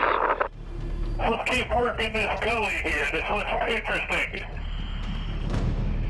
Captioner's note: crackling radio transmission; speaking over radio